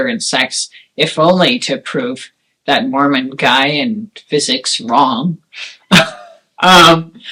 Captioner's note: laughs